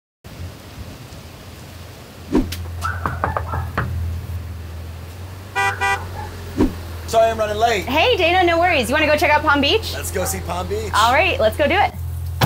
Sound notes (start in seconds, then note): 0.2 wind rustles the trees; 2.6 knocking; 5.5 horn beeping